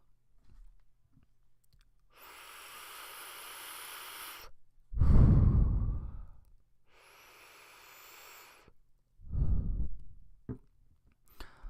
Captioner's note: vaping